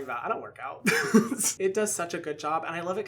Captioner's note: chuckling